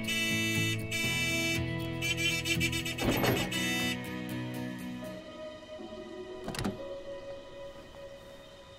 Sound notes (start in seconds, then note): 3.0 gate opens; 6.4 car door opens; 6.4 gate closes